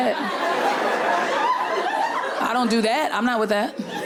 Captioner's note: continues laughing